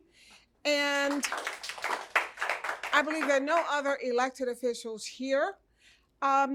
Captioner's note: applause